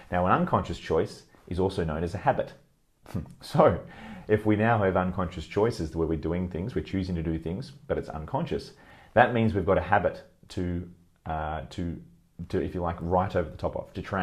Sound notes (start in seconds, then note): 3.0 chuckles